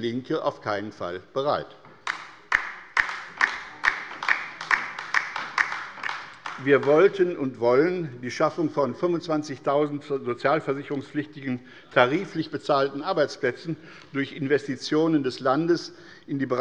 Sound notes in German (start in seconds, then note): 2.0 Beifall bei der LINKEN